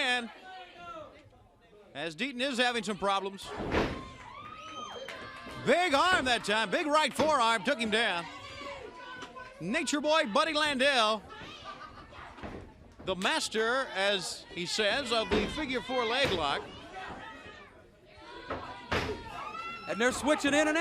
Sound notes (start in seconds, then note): 6.4 crowd cheering; 9.4 crowd cheering